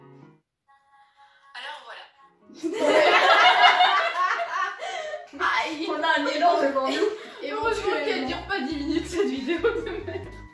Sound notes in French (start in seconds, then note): 2.6 Rire général; 6.9 Rire